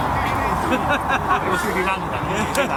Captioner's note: laughter